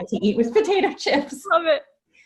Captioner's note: laughing